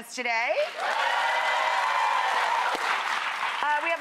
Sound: crowd cheering

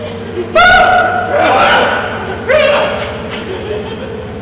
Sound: screams

